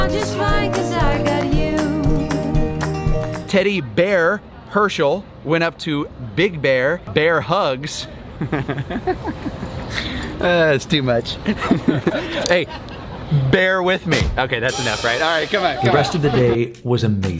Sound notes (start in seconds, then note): 8.4 laughs; 14.1 rim shot